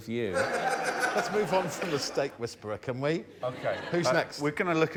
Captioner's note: laughter